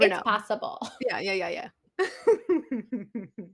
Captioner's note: laughter